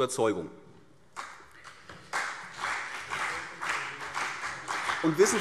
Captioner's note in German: Beifall CDU und BÜNDNIS 90/DIE GRÜNEN